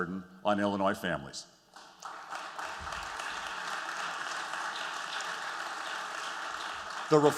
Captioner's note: applause